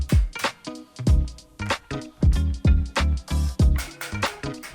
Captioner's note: scratching